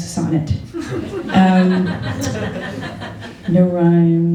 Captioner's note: laughter